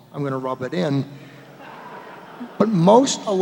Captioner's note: laughter